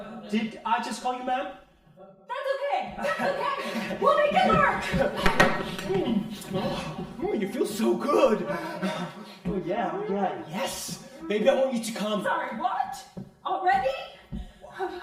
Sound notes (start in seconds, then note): 5.9 man moans